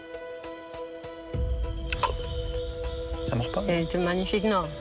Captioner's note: croaking